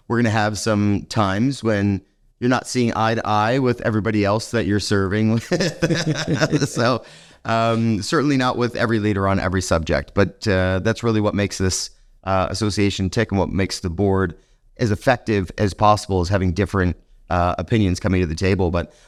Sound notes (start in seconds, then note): 5.3 both laughing